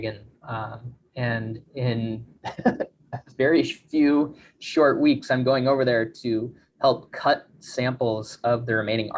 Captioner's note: chuckles